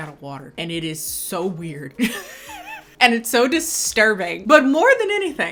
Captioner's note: laughing